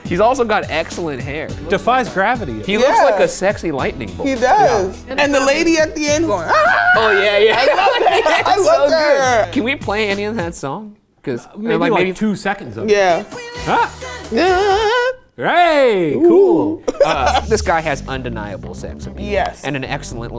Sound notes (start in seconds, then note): 6.5 screams